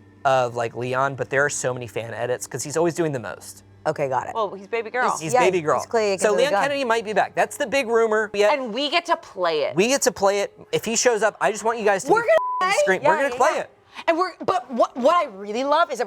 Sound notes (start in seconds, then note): 12.2 beep